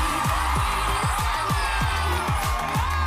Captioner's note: cheers and applause